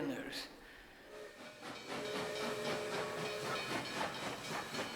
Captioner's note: train whistles